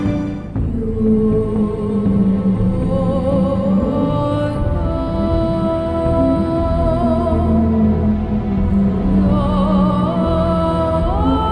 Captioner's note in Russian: звуки китов, музыка